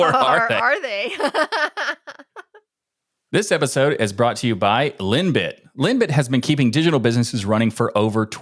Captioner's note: laughing